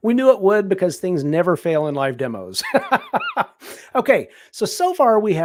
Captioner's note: laughs